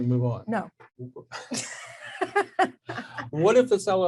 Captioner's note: laughs